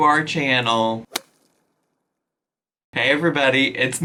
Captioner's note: whip cracks